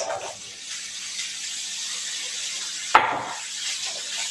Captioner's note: pan sizzling